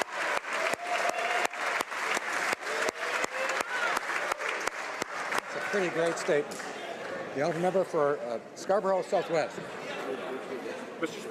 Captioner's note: some Applause